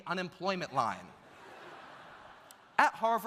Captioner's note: audience laughs